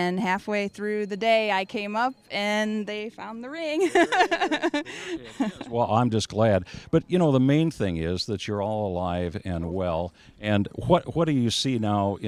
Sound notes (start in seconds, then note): 3.8 laughing